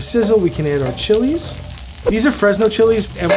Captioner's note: food sizzles